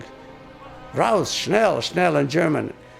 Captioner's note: speaking in a foreign language